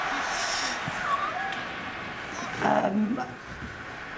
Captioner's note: cat meowing